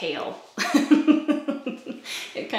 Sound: laughs

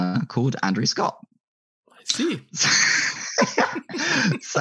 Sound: laughs

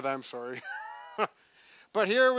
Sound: laughs

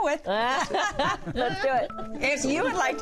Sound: laughter

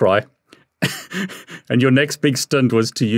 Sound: chuckling

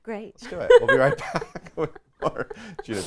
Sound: laughs loudly

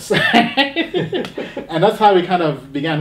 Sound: laughing

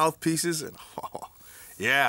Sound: chuckles

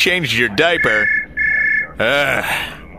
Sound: brriing bring!

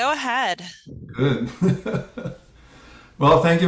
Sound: laugh

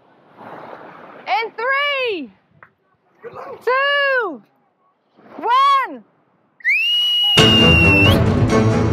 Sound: whistle

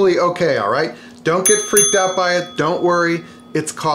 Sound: dinging

